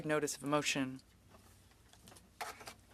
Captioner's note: speaking French